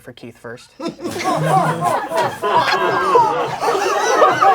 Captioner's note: crowd laughing